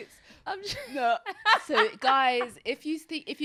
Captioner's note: laughs